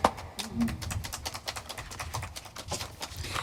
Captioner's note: aplodeja